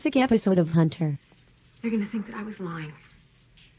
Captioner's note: on TV